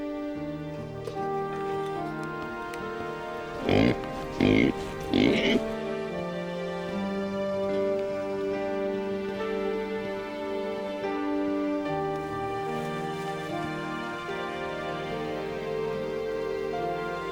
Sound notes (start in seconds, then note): 3.5 pig oinks; 6.7 serene music